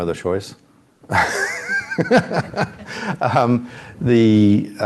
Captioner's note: laughs